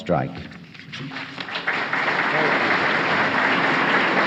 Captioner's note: applause